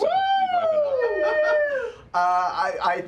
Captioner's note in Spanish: vítores